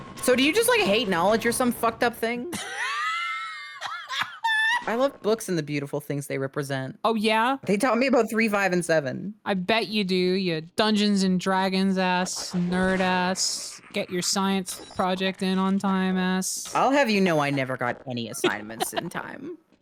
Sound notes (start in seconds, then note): 2.5 laughs